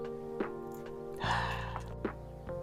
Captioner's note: sound of dismay/frustration